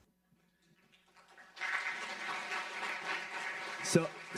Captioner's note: audience clapping